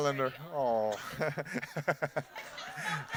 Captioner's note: laughter